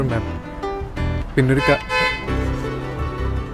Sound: car horns honking

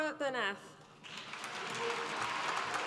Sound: applause

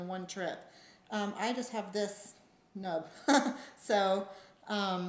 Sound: laughs

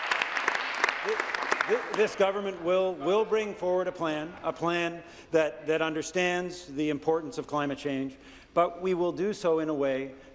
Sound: applause

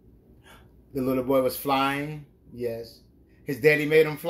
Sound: gasps

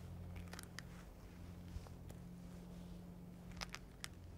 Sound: floor crunches

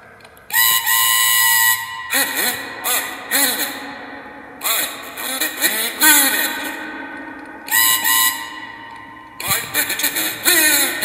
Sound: whistle blows

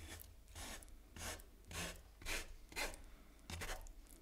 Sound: spatula scratching

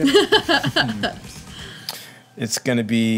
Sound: laughing

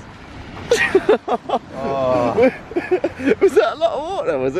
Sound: laughter

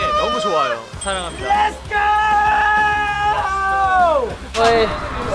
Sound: shouting

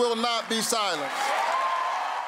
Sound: cheering and applause

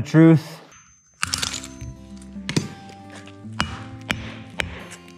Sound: items banging

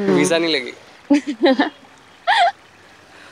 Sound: laughing

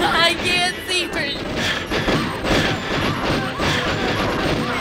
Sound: gunfire; loud gunfire

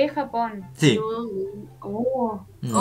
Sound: Spanish

